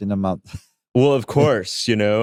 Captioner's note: chuckles